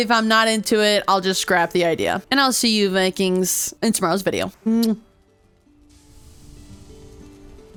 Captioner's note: kiss